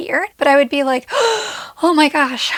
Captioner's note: gasps